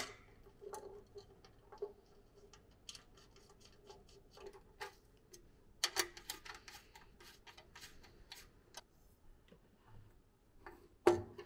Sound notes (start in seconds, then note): 0.2 metal clicking; 6.2 screws scraping